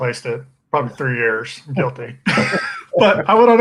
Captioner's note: laughs